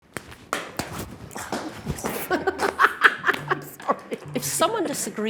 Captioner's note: laughing